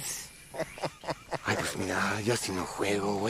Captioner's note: laughing